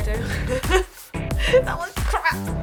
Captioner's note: laughs